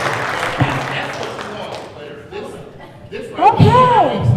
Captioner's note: man speaks off mic